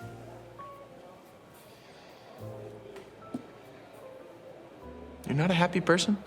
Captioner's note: Kevin breathes deeply